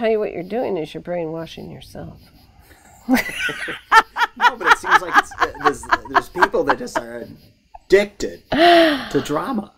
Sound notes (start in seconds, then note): 2.7 laughs